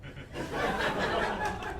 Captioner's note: laughter